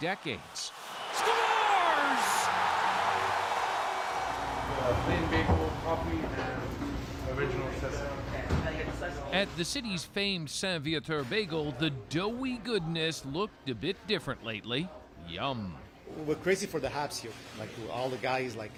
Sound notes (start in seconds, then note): 3.9 cheers and Applause